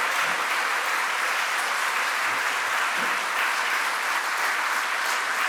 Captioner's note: applause